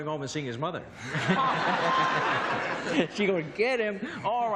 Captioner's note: laughter